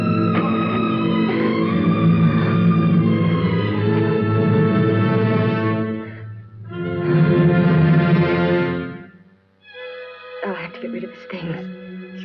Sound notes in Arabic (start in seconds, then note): 3.1 تتنفس بصعوبة